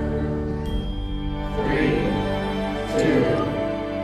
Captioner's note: crowd